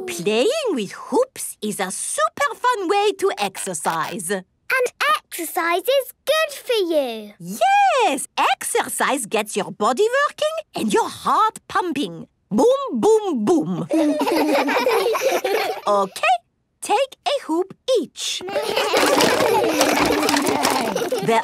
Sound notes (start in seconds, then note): 13.8 laughs; 18.4 all laugh